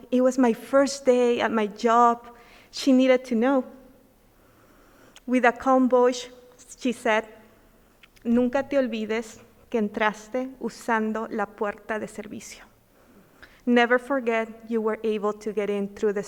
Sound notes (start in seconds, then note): 7.7 speaking in foreign language